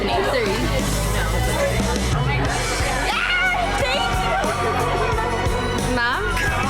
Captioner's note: upbeat music; women cheering